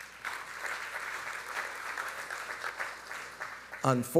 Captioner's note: audience applauding